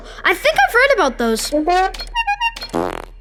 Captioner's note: honking